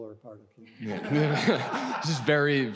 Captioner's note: audience laughs